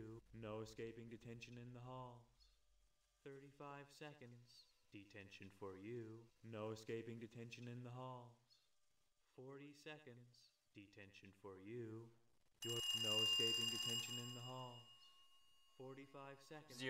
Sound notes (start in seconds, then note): 12.6 riiiing